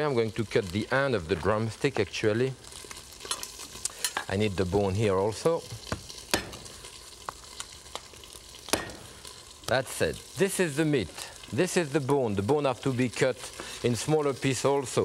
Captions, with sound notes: I'm going to cut the end of the drumstick, actually. I need the bone here, also. (knife thudding) That's it, this is the meat, this is the bone. The bone have to be cut in smaller piece, also.